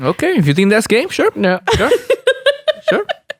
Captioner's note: laughs